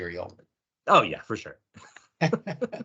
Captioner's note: laughing